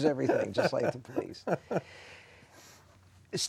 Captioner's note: laughing